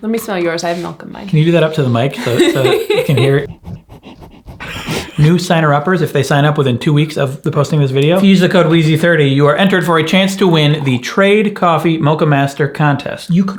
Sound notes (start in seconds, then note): 2.1 laughs; 4.3 sniffing